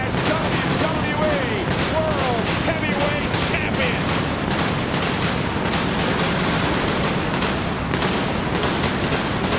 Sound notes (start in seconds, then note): 0.0 fireworks exploding; 4.8 explosions continue